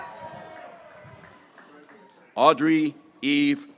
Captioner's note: graduates cheering